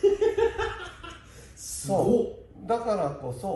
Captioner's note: laughs